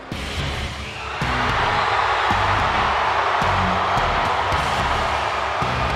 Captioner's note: crowd boos; rhythmic drumming